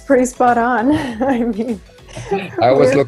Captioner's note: laughs